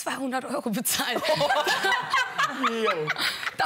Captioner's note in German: Gelächter